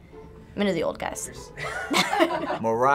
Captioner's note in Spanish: Finebros ríe a carcajadas